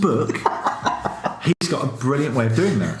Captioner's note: laughs